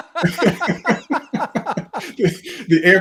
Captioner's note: laughter